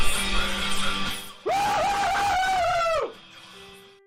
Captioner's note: screams